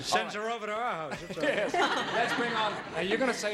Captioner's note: laughing